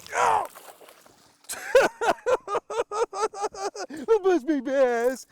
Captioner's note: laughs